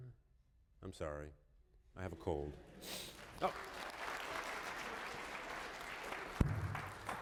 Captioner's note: applause